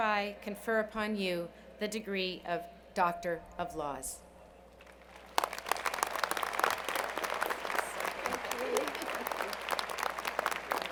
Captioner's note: applause